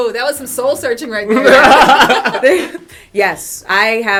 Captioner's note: laughter